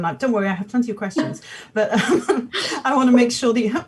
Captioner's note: laughs